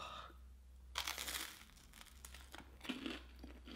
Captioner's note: toast crunches; crunchy chewing